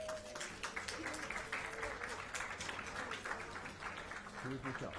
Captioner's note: applause